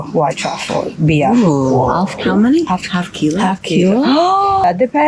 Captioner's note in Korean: 웅성웅성